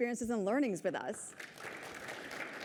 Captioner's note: applause